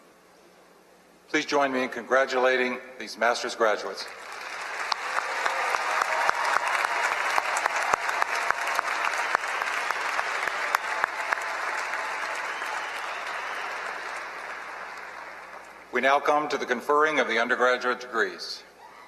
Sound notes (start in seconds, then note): 3.9 applause